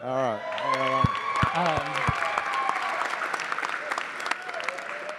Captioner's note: attendees applauding